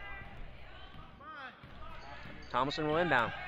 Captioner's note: crowd talking and yelling